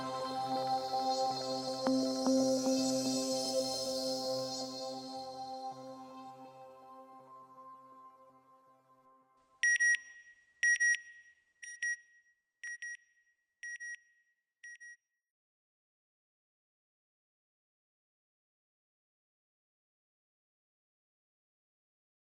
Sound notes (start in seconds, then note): 9.6 beeping